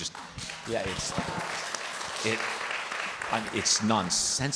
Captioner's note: participants clapping